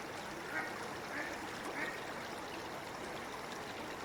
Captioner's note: ducks quacking